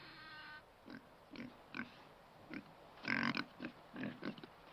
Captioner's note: pig snorting